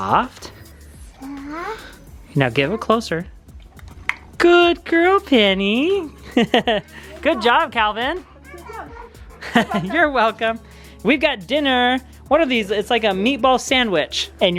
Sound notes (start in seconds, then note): 5.8 chuckles